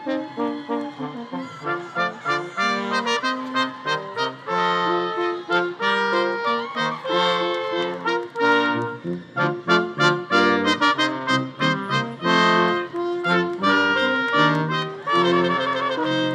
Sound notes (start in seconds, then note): 6.9 audience applause continues; 6.9 audience cheering continues